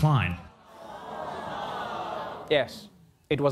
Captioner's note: audience gasping